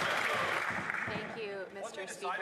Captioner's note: some Applause